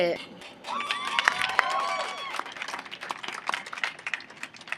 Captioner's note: audience applauding